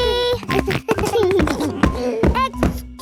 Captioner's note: giggles